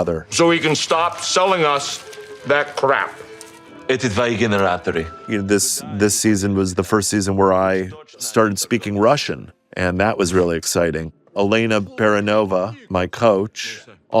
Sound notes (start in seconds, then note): 3.7 Murray speaks Russian